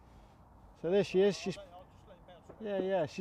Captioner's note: speaking from a distance